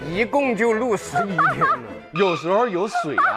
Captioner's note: hahaha